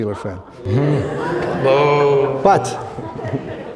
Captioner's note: groaning